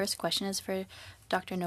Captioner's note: speaking French